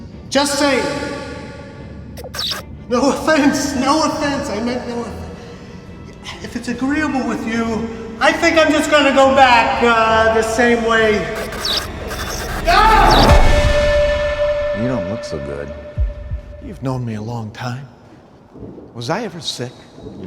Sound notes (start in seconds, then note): 11.3 lights buzzing